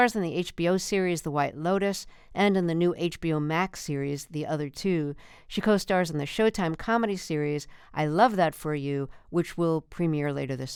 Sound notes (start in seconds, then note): none